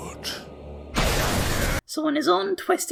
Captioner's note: lightning noises